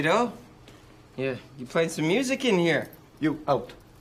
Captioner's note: slurring